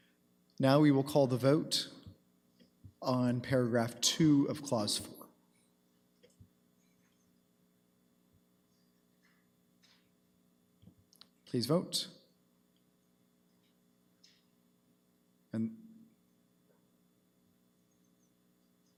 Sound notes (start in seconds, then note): none